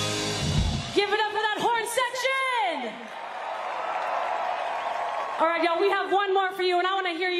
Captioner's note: cheers and applause